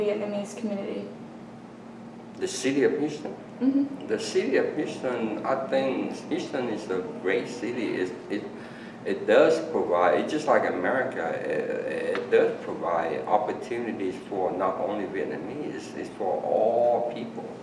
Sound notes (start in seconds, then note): none